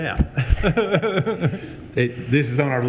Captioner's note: laughing